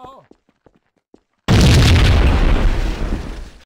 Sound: explosion

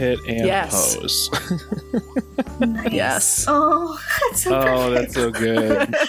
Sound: laughter

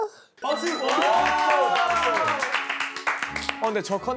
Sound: giving him an applause

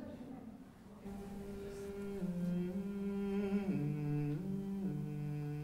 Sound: humming

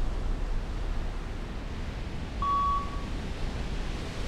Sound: slow beeping

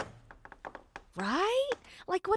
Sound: door creaks

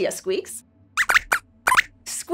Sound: squeaks squeaks

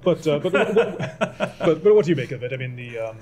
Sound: laughter

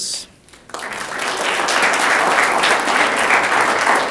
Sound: audience clapping

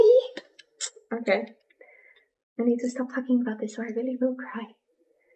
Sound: sucks teeth

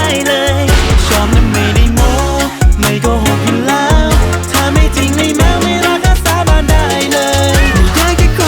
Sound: sound of thunder; meow sound

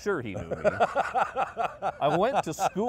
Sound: laughing

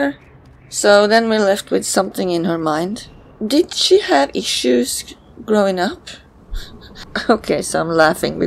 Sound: chuckles

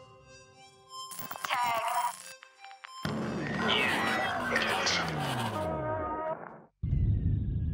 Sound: radio

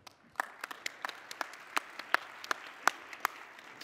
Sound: applause

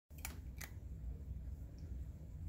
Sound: catfood crunching

